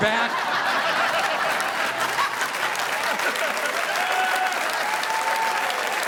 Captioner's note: audience laughing; audience applauding